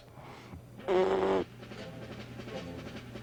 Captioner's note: buzzes lips together